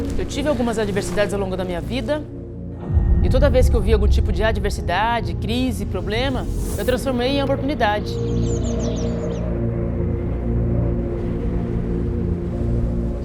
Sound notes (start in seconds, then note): 7.4 birds singing; 8.7 wind blowing; 10.9 slow and intense music